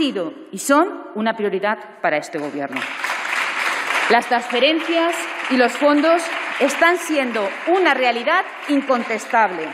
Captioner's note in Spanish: Aplausos